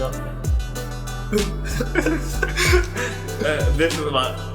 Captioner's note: laughs